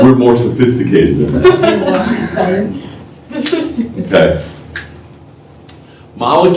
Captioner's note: laughter